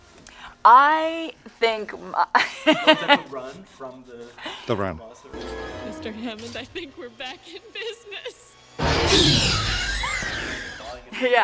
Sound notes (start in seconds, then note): 2.1 laughs; 9.0 dinosaur screeches; 9.6 Laura screams